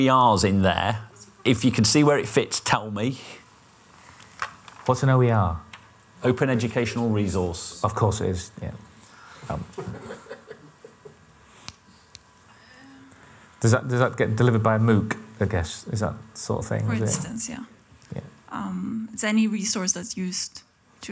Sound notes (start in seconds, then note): 9.7 laughter and background talking